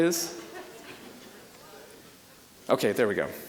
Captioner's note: audience murmuring